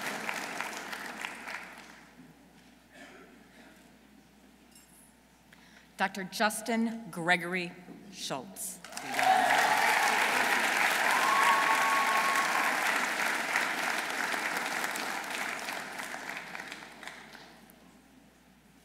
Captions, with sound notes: Dr. Justin Gregory Schulz. -(audience cheering) -(audience applauding)